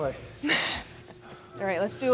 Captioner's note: Sol chuckles